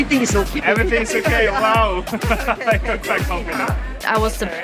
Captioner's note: laughs